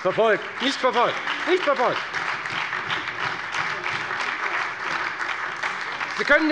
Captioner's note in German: Beifall bei der FDP und der SPD sowie bei Abgeordneten der LINKEN